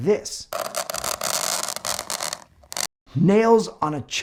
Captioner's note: fingernails scratching